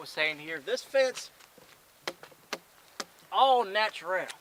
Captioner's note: hand slapping